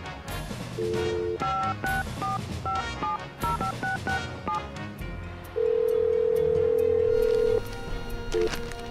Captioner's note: fax machine sounds